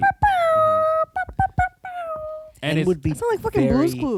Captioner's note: makes sound effects